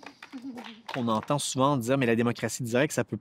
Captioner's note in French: applaudissements